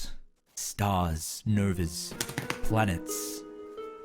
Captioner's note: excited clapping